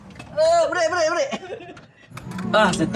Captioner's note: laugh